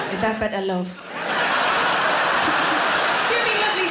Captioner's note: audience laughing